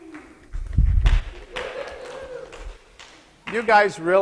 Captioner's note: scattered applause and cheers